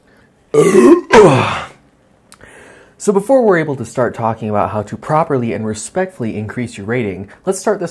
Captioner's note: Belch